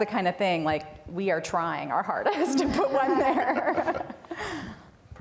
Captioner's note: laughs